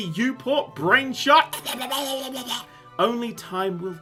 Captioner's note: chaocking noises